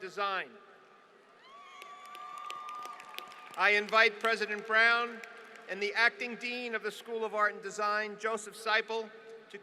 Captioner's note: applause